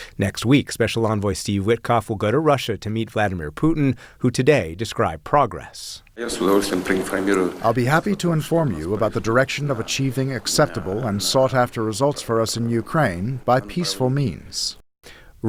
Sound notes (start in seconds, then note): 7.4 through translator